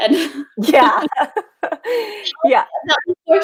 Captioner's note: laughing; laughs